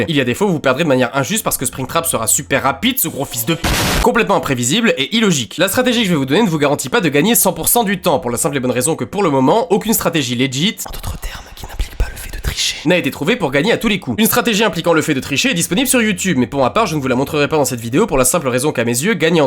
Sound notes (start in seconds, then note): 3.1 explosion